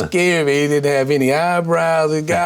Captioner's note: laughs